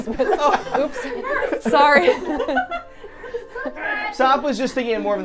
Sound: trio laughing

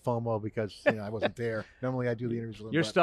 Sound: laughing

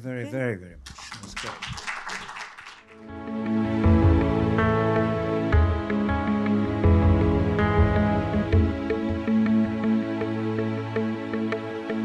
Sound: applause

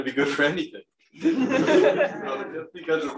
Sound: laughter

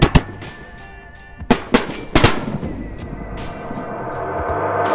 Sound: fireworks popping; upbeat music

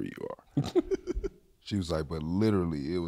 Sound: laughs

